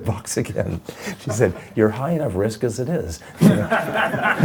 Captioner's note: laughing